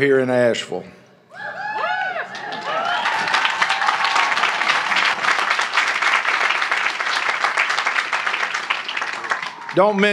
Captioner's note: cheering; applause